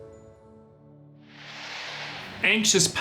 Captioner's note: air whooshing